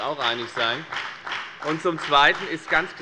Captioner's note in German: Beifall bei der FDP